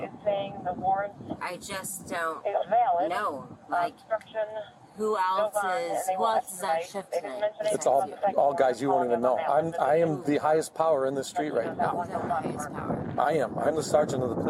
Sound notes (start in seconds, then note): 5.0 radio chatter